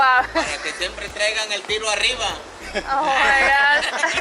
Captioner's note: man speaking foreign language